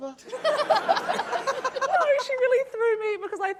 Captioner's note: laughter